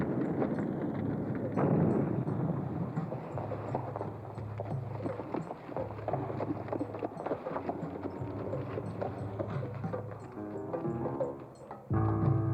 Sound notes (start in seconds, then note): 3.1 fireworks exploding; 9.4 dramatic music